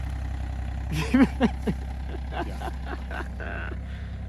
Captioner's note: laughing